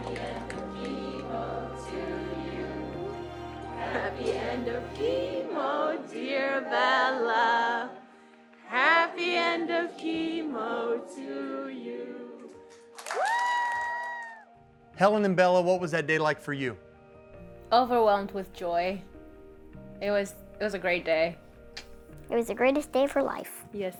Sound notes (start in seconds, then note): 12.8 crowd applauding; 13.0 crowd cheering